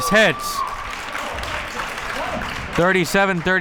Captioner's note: crowd cheering and applauding